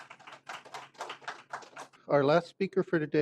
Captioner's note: applause